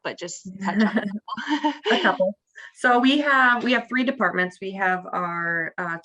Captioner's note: laughs